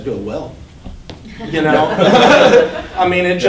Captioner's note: class laughing